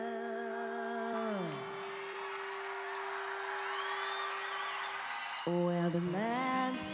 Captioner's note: crowd cheering